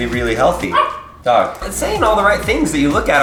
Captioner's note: dog barks